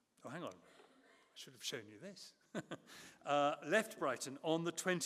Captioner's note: chuckles